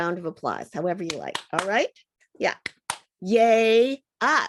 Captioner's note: sound of hands clapping